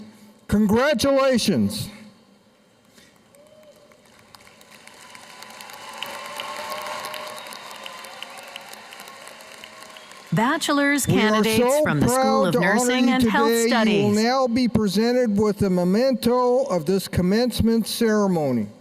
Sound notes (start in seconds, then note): 9.8 cheers and applause